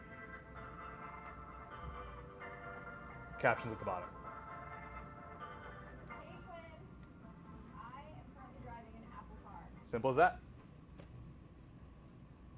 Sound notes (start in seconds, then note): 6.2 woman speaking on video